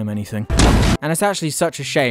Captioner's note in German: Boom